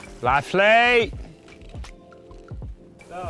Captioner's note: yelling